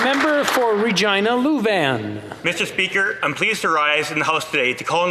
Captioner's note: applause